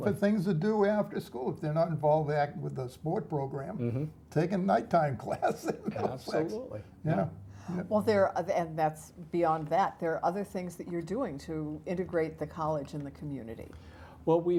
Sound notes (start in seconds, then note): 5.2 laugh